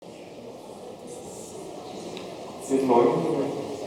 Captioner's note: audience chattering